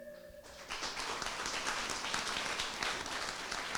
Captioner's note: applause